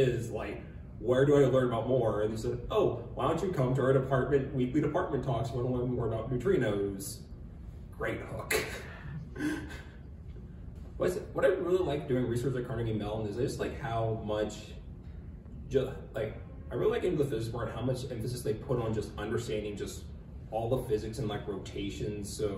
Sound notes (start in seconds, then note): 8.6 laughter